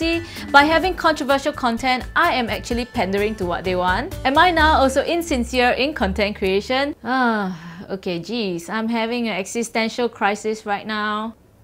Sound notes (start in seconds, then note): 7.3 sigh